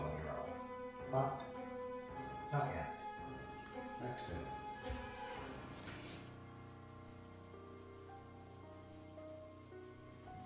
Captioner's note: knocking